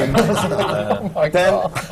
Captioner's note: laughter